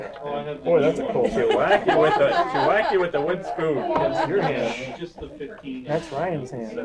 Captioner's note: laughter